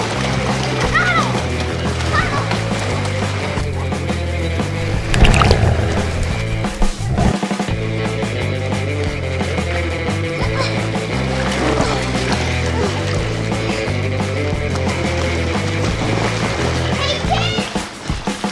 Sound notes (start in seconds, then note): 4.7 grrr, grrr!